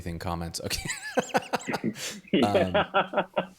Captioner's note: laughing